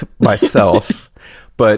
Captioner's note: laughs